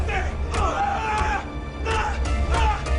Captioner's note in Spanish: Puñetazos